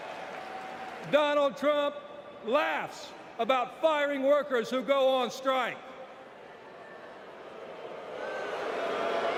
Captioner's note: applause